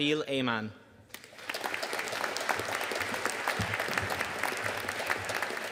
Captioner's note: audience applauding